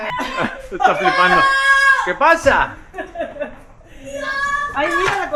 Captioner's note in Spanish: risas; grito